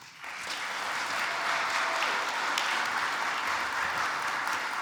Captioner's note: audience applauds